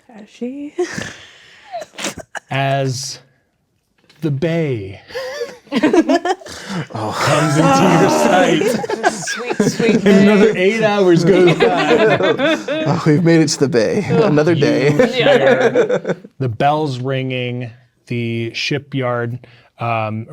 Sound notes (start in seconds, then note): 0.8 snorts and laughs; 5.2 chuckles; 5.3 players laughing; 8.1 players reacting; 12.0 players laughing